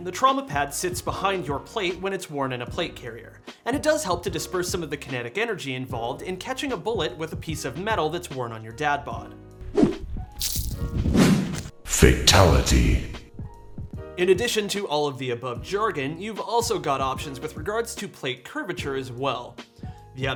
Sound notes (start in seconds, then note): 9.7 whishing